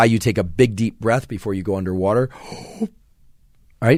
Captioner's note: inhales heavily